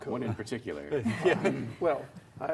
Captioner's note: laughs